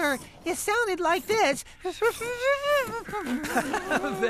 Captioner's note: imitating Warbler